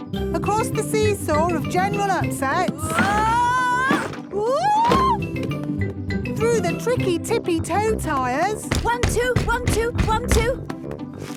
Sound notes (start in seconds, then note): 2.6 wood teetering